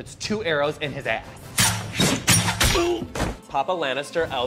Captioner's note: arrows firing